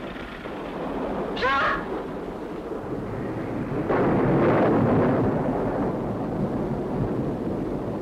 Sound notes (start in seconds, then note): 4.0 thunderstorm